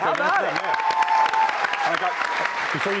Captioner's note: cheers and applause